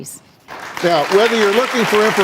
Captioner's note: applause